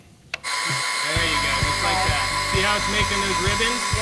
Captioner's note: buzzing sound